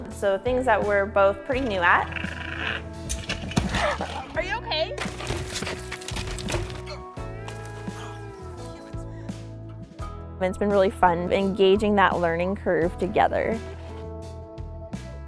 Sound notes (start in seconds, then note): 3.1 crashing